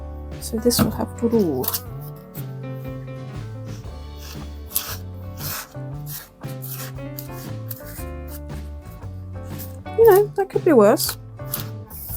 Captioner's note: soft scraping; paper smoothing and crinkling